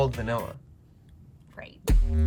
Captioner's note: music stops